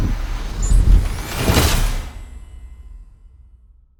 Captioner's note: tone beeping; graphics whooshing